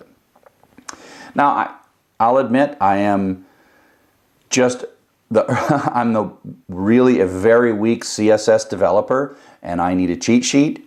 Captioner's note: laugh